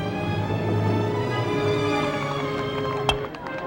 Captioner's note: clapping